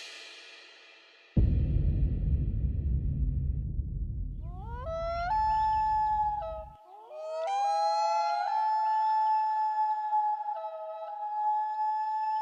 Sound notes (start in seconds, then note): 4.5 wolves howling